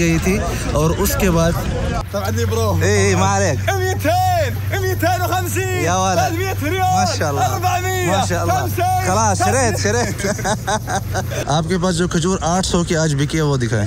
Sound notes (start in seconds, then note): 2.6 Arabic